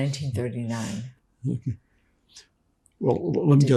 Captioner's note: laughing